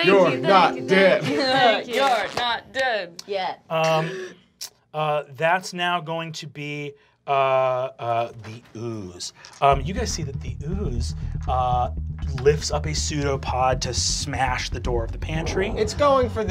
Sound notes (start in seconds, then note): 3.8 gasps